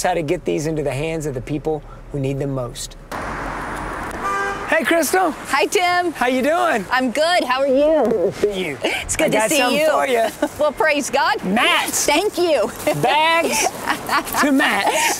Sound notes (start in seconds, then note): 12.6 laughs